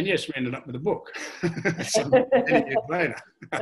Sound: all laugh

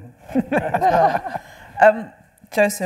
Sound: panel laughing

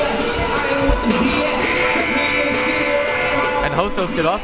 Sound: buzzer

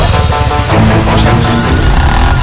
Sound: tire Screeching

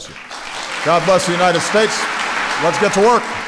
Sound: applause

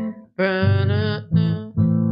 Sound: humming

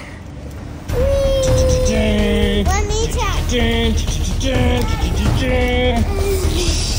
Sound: imitates dramatic music

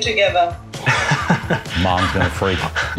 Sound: laughing

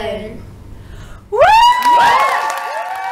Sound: applause

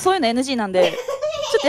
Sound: laughs

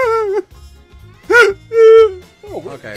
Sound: coughing; loud whimpering; whimpering like a sad dog

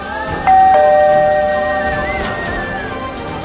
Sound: bell rings

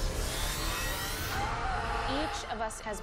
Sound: screaming

